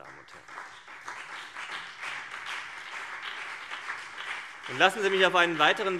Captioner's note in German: Beifall CDU und BÜNDNIS 90/DIE GRÜNEN